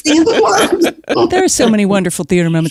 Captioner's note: laughs